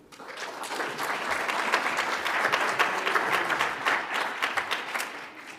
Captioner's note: audience applauds